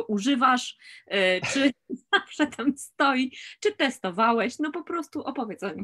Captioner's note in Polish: śmiech